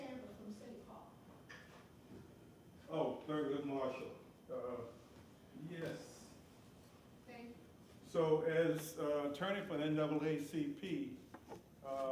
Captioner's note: off microphone